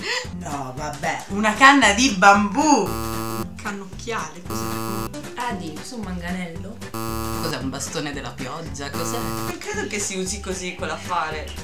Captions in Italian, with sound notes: no vabbè... una canna di bambù! (suono errore) cos'è un cannocchiale? (suonno errore) forse è un manganello? (suono errore) cos'è bastone della pioggia? (suono errore) non si usa così quella cosa!